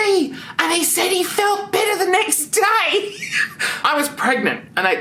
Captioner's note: chuckles